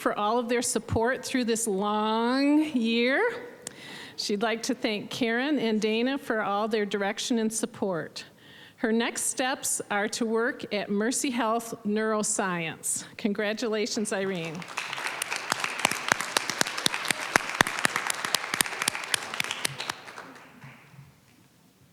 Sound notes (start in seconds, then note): 13.9 applause